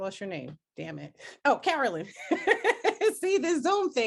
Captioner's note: laughing